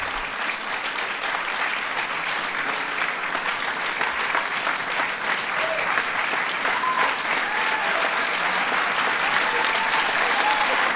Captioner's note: applause